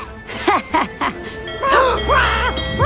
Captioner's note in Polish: śmieje się